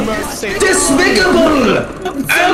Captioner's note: In TF2's voicechat